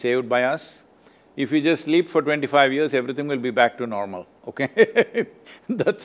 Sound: laughs

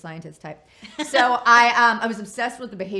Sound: laughs

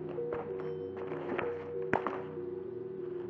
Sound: elevator bell

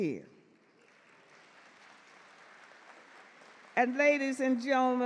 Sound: audience clap

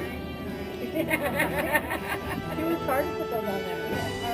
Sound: laughing

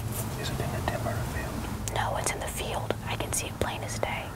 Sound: whispering; whispering

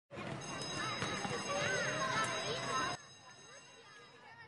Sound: school bell

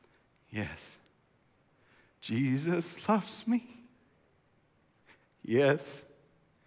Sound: voice breaking

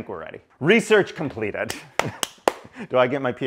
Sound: clapping hands

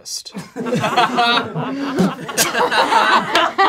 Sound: laughing

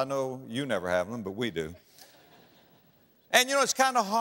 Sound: audience laughter

